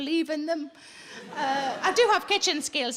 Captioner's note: audience laughing